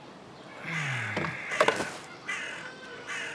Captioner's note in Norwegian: puster tungt